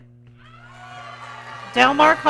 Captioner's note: audience cheering